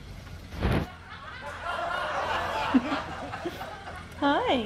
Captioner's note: laughter